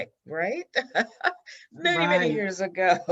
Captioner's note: laughs